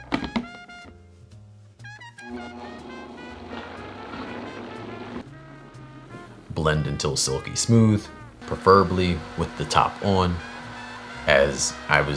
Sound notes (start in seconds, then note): 2.2 blender running